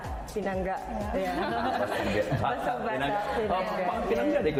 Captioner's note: laughter